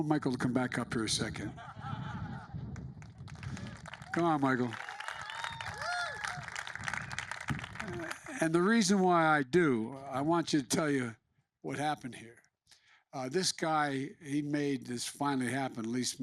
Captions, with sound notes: I want Michael to come back up here a second. (Laughter.) Come on, Michael. (Applause.) And the reason why I do -- I want to tell you what happened here. This guy, he made this finally happen --